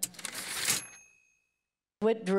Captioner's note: typewriter ding